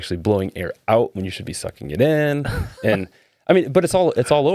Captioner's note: laughing